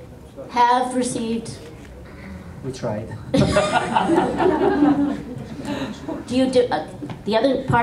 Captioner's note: laughter